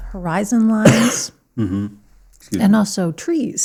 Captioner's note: coughs